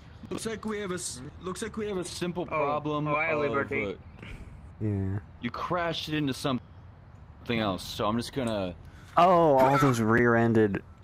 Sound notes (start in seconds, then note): 9.7 loud grunt